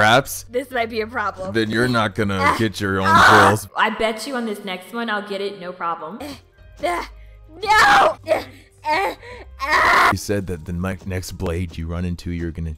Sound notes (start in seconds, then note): 3.0 screams; 7.5 groaning; 7.5 groaning and yelling